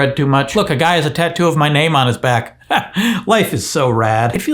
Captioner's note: chuckles